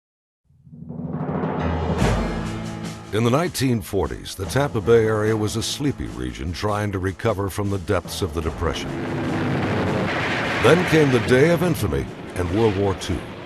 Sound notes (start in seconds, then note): 8.4 planes roaring